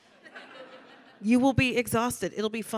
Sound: audience laughing

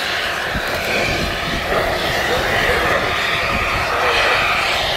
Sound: safety valves hissing

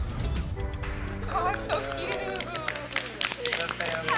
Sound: laughing

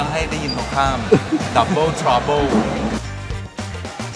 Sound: laughs

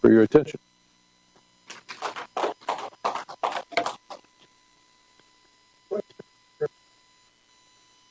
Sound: applause

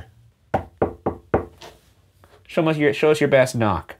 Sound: knocking on stairs

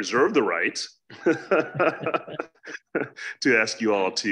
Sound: laughs

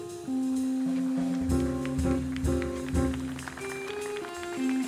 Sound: audience applauds

